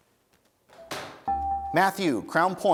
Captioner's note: dinging